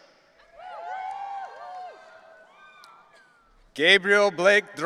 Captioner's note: audience cheering